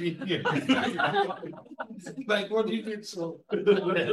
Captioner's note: all chuckles